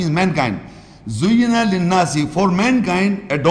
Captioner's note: Arabic